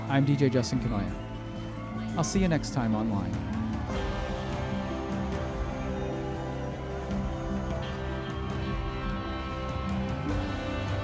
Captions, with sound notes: I'm DJ Justin Kanoya. I'll see you next time online. (dramatic music) (crowd cheering)